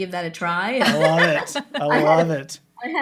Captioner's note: laughs